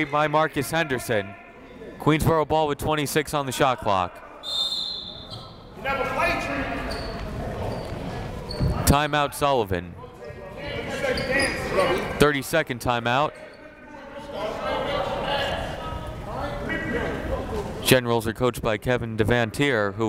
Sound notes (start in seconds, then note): 4.4 whistle